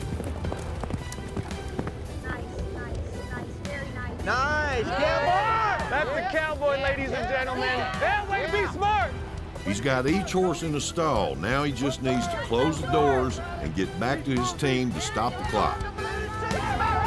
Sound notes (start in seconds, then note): 0.0 hoofbeats; 7.8 cowboys shout encouragement; 16.1 cowboys cheering